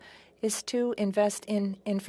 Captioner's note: speaking French